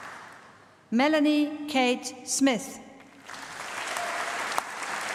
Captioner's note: applause